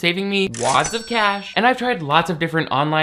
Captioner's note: cash register dings